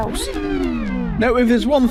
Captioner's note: sound FX